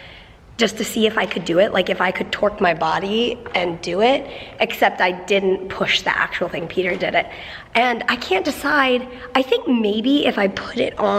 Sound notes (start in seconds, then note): none